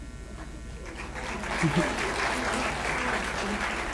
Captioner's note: applause